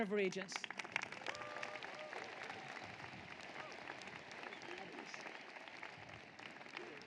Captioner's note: applause